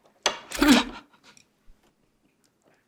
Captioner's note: she cracks up